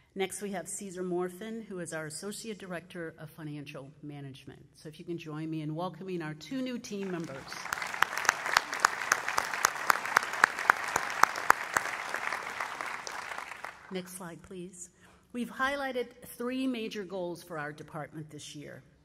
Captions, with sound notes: Next we have Cesar Morphin who is our associated director of financial management. So if you can join me in welcome our two new team members. [ Applause ] Next slide please. We've highlighted three major goals for our department this year.